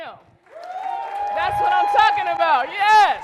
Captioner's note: applause